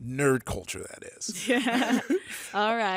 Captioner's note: laughs